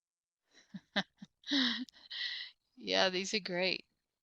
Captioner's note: laughs